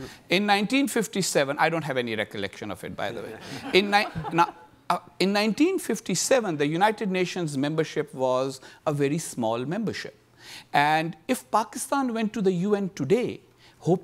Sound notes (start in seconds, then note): 3.2 audience laughing